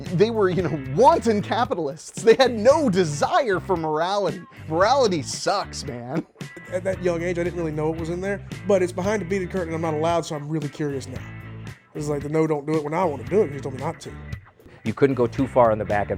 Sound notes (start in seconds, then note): 6.2 laughs; 14.5 background music